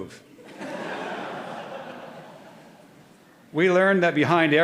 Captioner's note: audience laughing